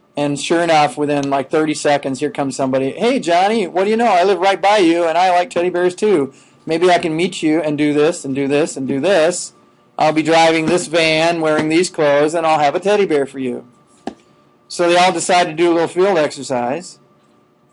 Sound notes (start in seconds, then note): none